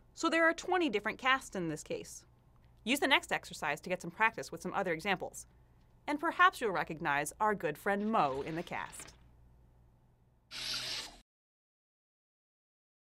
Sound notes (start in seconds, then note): 8.1 robotic sounds